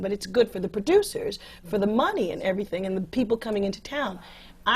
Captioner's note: none